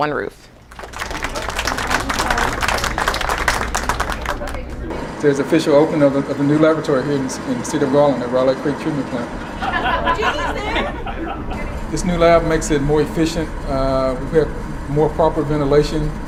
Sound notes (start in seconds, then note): 0.6 clapping; 9.4 laughter